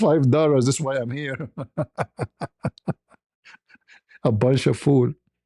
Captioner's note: ketawa